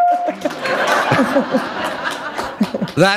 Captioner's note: horn music; laughter